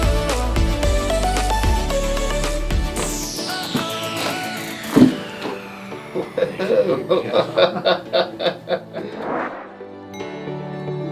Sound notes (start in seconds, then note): 3.0 cracking; 6.0 laughing